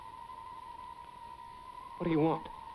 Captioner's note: wind whispering